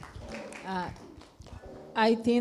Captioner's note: clapping